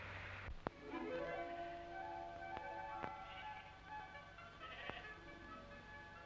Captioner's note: idyllic music; sheep baaing